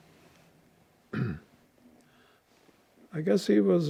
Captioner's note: clears throat